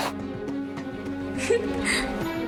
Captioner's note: chuckles